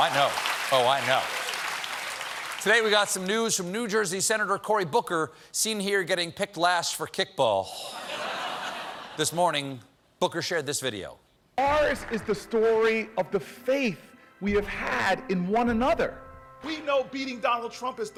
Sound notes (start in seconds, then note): 0.0 cheers and applause; 0.0 applause; 7.8 laughter